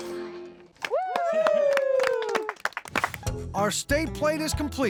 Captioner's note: cheering, applause